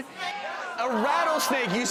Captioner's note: audience chatters